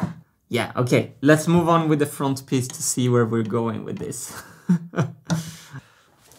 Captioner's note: chuckles